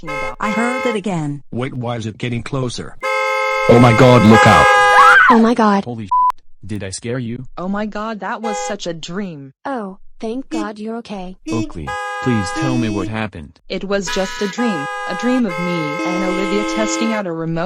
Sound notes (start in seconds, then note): 0.0 car horn honking; 3.0 car horns honking; 4.9 exclaims in terror; 8.4 car horn honking; 11.4 car horn honking; 11.4 car horns honking